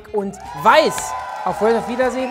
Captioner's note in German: Jubel